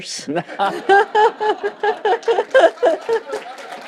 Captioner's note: laughter, applause